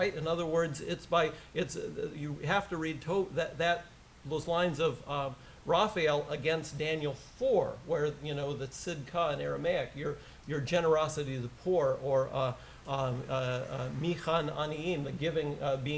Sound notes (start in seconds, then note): 8.4 aramaic; 13.7 foreign language